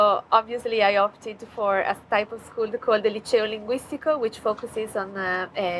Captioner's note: speaking foreign language